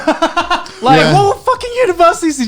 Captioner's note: laughing